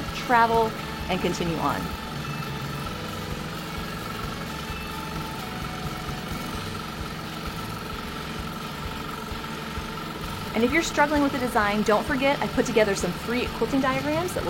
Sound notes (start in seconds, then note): 2.4 longarm hums